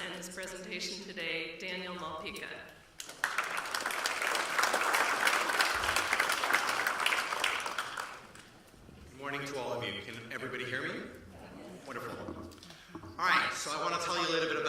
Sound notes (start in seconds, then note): 3.0 applause